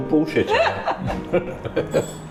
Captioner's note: laughing